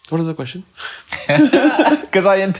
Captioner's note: laughing